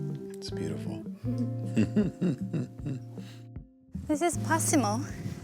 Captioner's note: chuckles